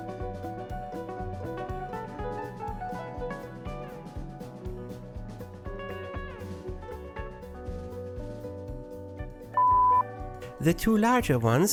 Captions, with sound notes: [ beep sound effect ] The two larger ones